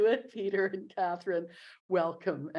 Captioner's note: chuckling